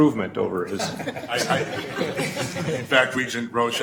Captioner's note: laughing